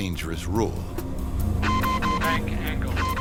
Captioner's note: beeping